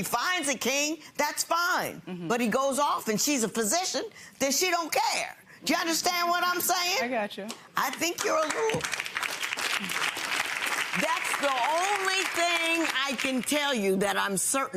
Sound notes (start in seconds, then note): 10.7 audience claps